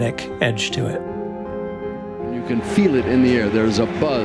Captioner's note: soundbite of archived recording